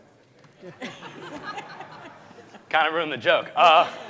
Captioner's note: audience laughing